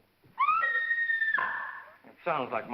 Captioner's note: Mrs. Topper screams